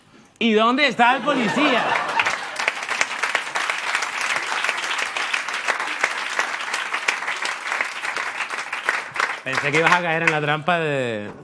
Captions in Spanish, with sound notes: "¿Y dónde está el policía?". (Risas y aplausos) Pensé que ibas a caer en la trampa de...